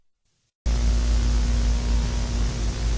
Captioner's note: VHS white noise